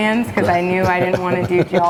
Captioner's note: laughs cheerfully